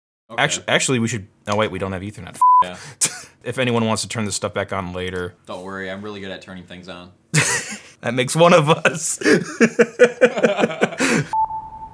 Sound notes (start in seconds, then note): 2.4 beep; 8.8 laughing; 8.8 laughs